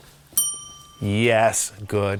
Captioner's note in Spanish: campana sonando